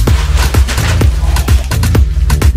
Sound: more crumpling

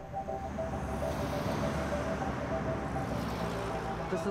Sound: cars passing

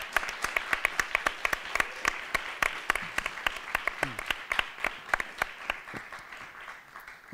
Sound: applause

